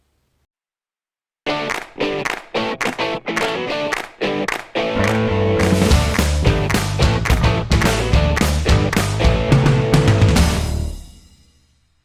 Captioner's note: claps